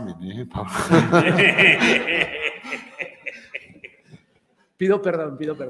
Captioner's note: laughs